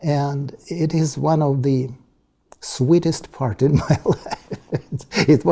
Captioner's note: laugh